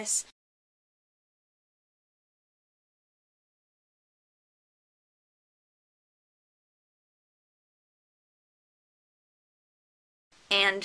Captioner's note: silence during text note on screen